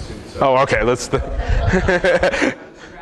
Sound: laughter

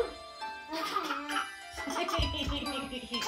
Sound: giggling

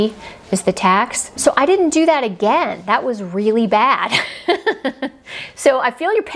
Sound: giggles

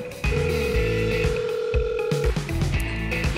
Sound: phone ringing

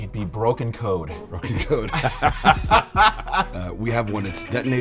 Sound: laughing

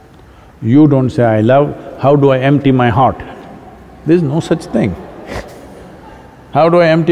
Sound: laughs

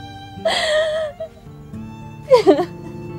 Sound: cries

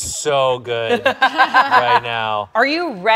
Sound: laughs

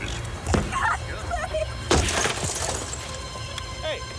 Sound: crying

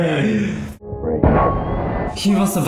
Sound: pipe bursting

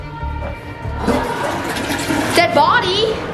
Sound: toilet flushing

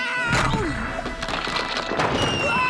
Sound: screaming; crackling; screaming

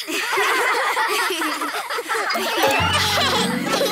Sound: everyone laughs

